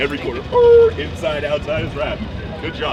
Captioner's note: imitates tires squealing